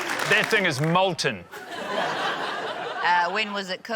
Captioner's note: laughter